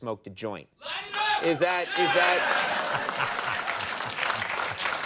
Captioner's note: audience cheering